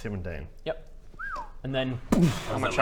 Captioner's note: whistle